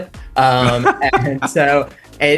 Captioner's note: Josh laughing